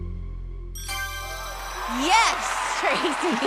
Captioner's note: ding